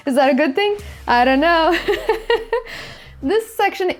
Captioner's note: laughs